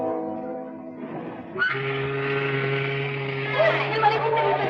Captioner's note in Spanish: Sirena del barco